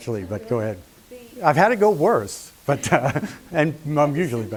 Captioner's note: laughs